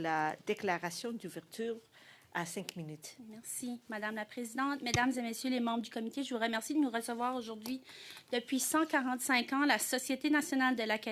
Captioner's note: speaking French